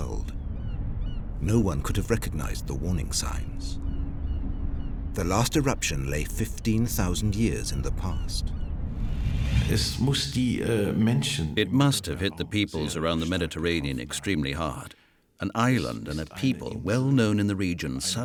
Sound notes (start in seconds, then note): 0.3 gulls calling; 9.6 speaking German